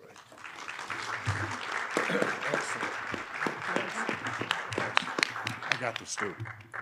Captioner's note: audience applauding